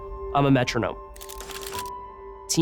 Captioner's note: camera shutters